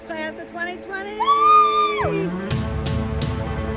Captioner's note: students cheering